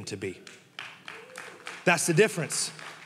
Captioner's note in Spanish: congregación aplaudiendo